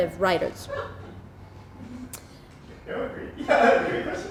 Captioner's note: audience laughs